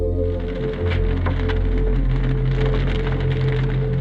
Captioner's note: fire crackling